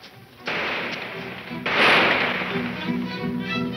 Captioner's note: gunshots banging